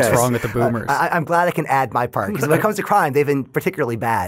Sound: laughing

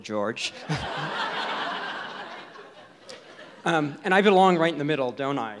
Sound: audience laughs

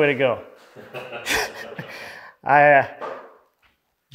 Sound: laughing

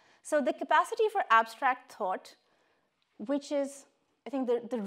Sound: none

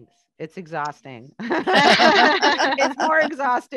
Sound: laughter

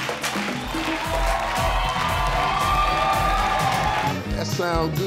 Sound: salsa music; audience cheering

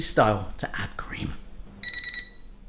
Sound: electronic beeping

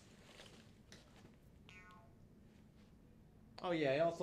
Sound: eyebrows boing

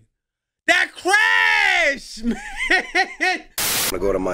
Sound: laughing

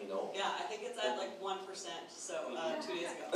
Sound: voiceover

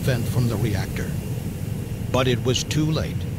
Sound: hissing sound

